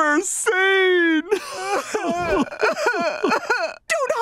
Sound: crying

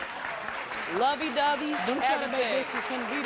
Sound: audience applause; applause drowning out other sounds

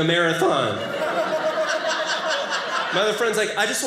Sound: audience laughing

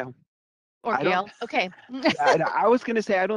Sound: mumbles

